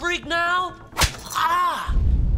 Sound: smacking noise

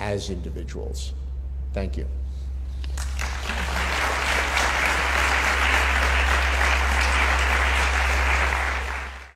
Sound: applause

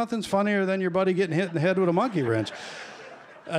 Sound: laughter

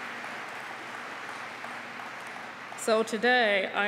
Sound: applause

